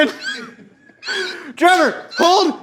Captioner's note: squeaking